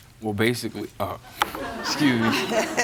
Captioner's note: laughter